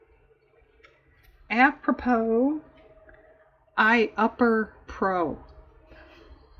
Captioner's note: laughs